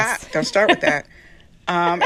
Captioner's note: laughter